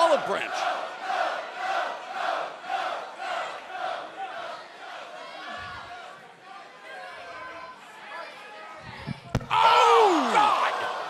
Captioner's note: crowd cheering